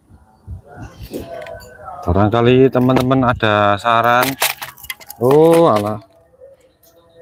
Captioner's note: glass flakes shaken